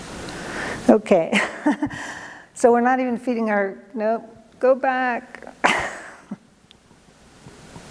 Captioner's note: laughs